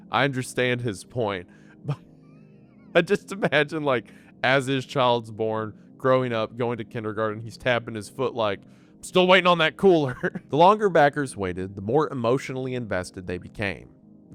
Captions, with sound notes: I understand his point. [laughing] But I just imagine, like, as his child's born, growing up, going to kindergarten, he's tapping his foot like, "I'm still waitin' on that cooler." The longer backers waited, the more emotionally invested they became --